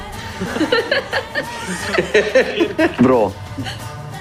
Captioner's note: laughing